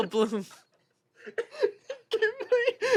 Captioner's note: they laugh